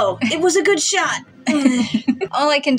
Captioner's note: giggle